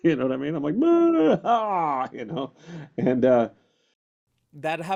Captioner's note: crying